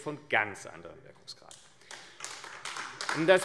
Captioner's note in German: Beifall AfD